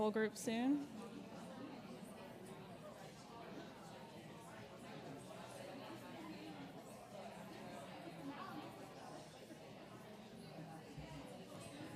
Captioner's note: backrgound chatter